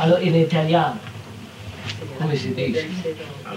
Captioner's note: Italian